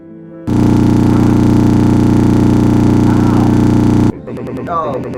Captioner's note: error noise